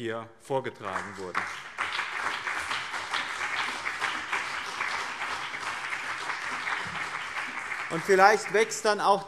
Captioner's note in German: Beifall BÜNDNIS 90/DIE GRÜNEN und CDU